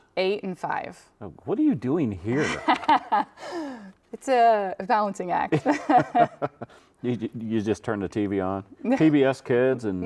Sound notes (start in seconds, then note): 5.6 chuckling